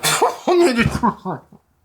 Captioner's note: dying noises